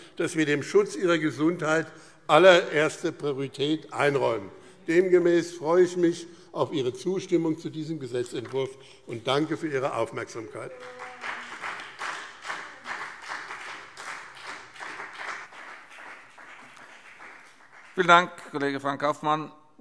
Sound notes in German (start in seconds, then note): 10.2 Beifall BÜNDNIS 90/DIE GRÜNEN und CDU